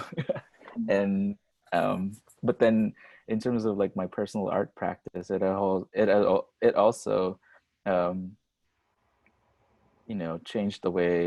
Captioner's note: laughs